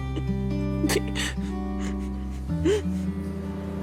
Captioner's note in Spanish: Sollozos